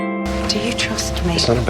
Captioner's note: voiceover